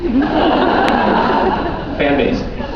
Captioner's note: laughs